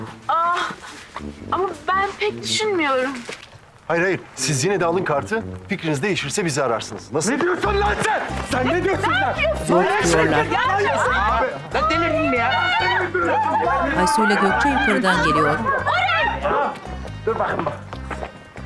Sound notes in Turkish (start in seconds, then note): 10.4 Bağırma sesleri